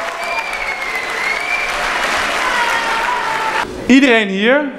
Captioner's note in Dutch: Applaus, gejuich